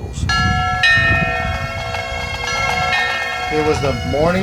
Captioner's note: bells ringing; ♫ bagpipes and drums